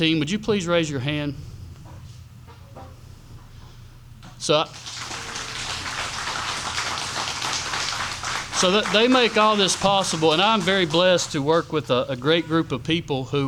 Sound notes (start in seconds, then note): 4.7 audience applauds